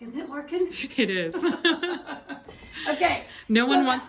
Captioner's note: both laughing